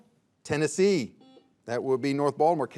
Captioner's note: buzzer beeps